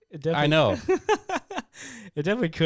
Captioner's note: laughing